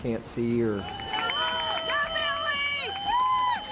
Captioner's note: whistle